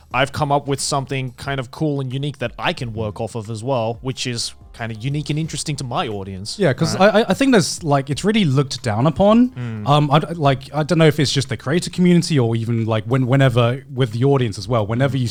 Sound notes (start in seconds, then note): 9.4 affirmative murmuring